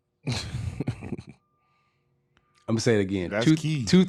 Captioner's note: chuckling